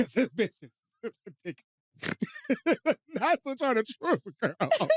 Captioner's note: laughs